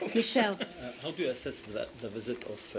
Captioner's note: laughter